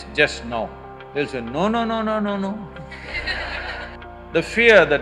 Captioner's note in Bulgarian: смях